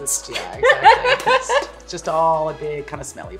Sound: laughter

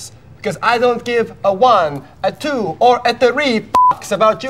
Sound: beeping

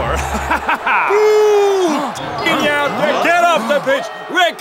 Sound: crowd boos

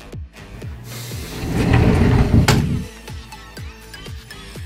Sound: door sliding shut; upbeat pop music

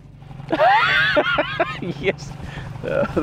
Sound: laughing

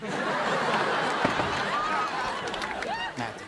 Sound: knocking on door

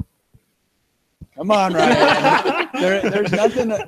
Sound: all laugh

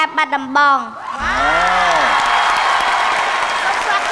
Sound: cheer and applause

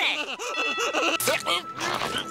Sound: laughing

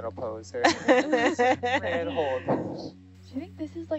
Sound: group laughing

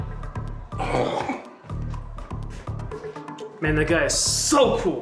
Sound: Hunter groans

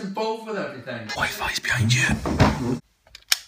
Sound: whispering

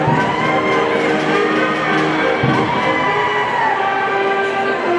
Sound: people cheering

